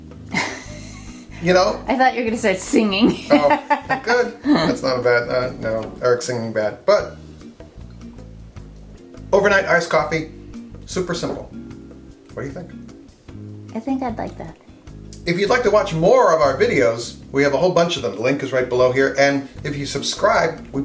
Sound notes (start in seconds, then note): 0.3 camerawoman laughing; 3.0 laughs